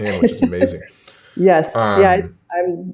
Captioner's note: laughs